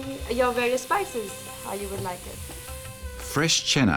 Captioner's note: food sizzles